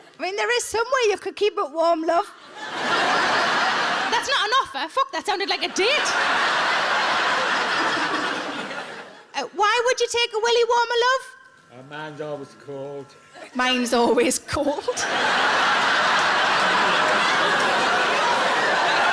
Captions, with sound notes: I mean, there is some way you could, but warm love. (audience laughs) That's not an offer. Fuck, that sounded like a date! (audience laughs) Why would you take a "Willie Warmer," love? - Mine's always cold. - Mine's always cold. (everyone laughs)